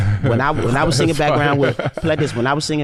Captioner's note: laughs